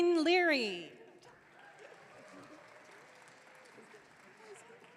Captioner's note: audience cheering